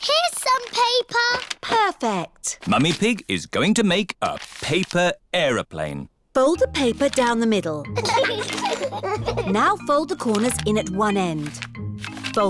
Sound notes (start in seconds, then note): 7.9 both giggling